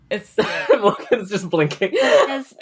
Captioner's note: laughs